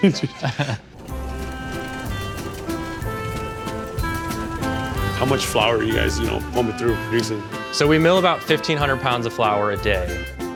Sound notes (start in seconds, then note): 0.0 laugh; 0.9 flour mill whirs; 1.0 melodious music